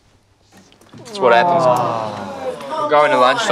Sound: class groans in despair

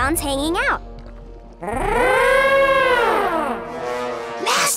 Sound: mastodon horns

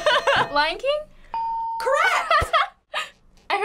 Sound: laughs; ding; laughs

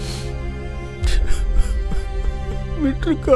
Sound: Rajeev Cries

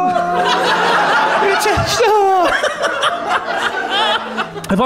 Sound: laughing

